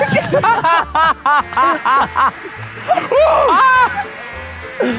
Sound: laughing

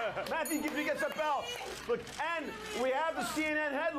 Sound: bell Rings

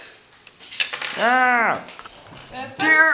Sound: strongmad screaming

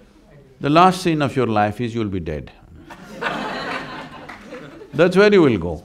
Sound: laughter

